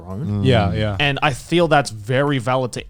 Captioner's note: affirmative murmuring